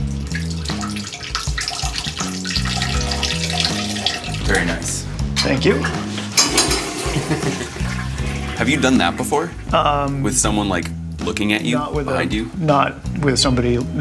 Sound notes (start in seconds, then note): 0.2 peeing sound; 5.7 toilet flush